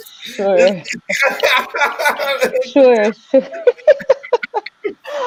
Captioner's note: laughing